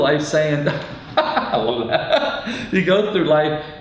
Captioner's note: laughs